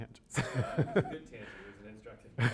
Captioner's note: laughs